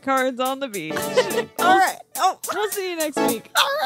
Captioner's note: stuttering